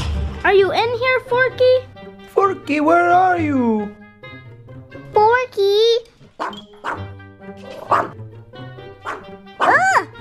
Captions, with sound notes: Are you in here, Forky? Forky! Where are you? Forky! *bark bark* *bark*